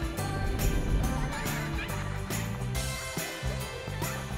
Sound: kids laughing in distance

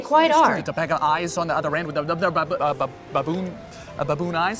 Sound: stuttering

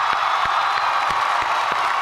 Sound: cheers and applause

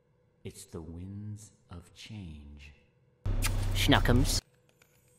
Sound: smooch

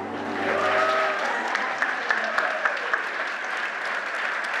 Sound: audience applauding

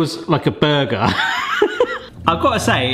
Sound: laughs

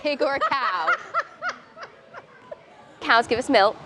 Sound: laughing

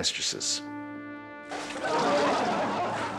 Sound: glass crumpling; crowd laughing

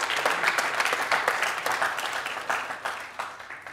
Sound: audience applauding

